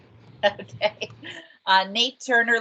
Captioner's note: laughs